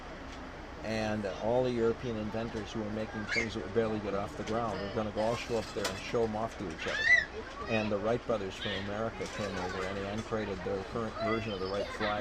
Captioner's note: laughs